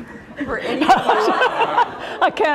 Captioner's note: laughter